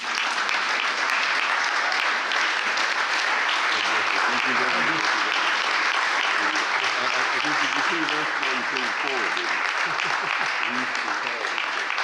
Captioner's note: applause